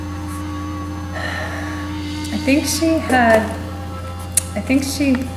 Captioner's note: sigh